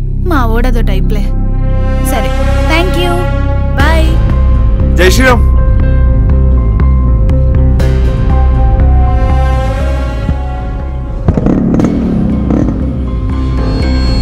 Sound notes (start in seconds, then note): 11.2 bike starts